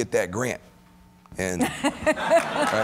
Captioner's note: laughter